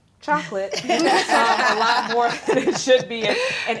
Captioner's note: all laughing